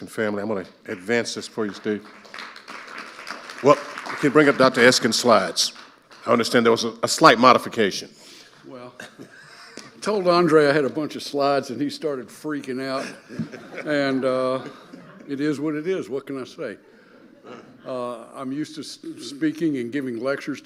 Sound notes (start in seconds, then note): 0.8 audience applauding; 8.9 both chuckling